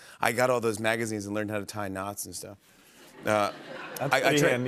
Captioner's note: laughter